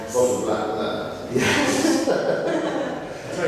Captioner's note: joint laughter